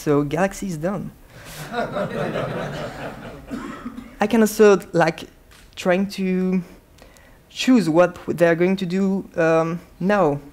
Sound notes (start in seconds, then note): 1.4 laughing